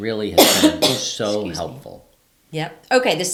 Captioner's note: coughing